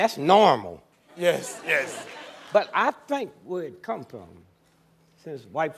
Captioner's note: laughter